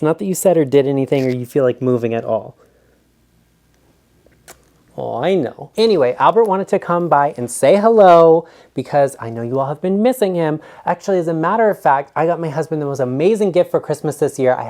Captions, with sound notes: Not that you said or did anything, or you feel like moving at all. (smooches) Oh I know. Anyway, Albert wanted to come by and say hello because I know you all have been missing him. Actually, as a matter of fact, I got my husband the most amazing gift for Christmas this year.